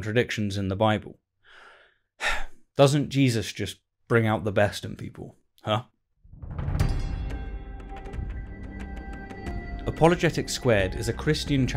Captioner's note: sigh